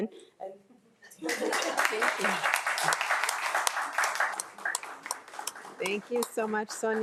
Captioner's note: crowd applauding